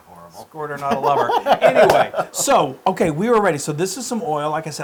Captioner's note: laugh